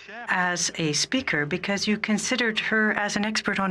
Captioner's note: speaking French